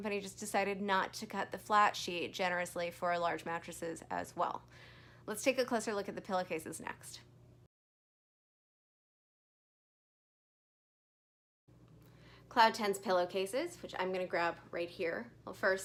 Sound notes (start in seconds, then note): 8.5 silence